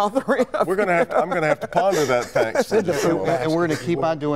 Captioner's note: laughter